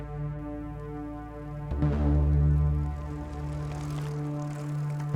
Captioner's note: bike rattling